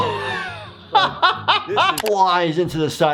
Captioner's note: laughing